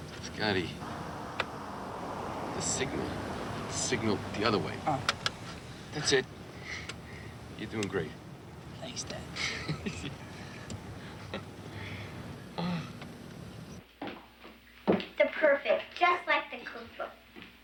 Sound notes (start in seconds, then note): 9.3 Jack laughs